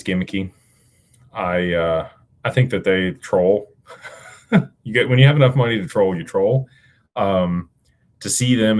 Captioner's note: laughter